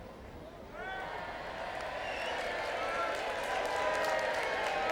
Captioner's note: crowd cheering